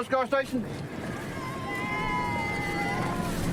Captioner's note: cheers